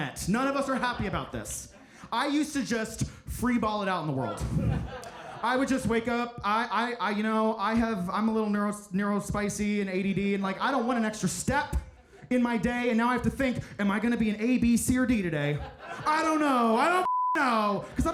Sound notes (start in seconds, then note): 4.0 audience laughing; 15.4 audience laughing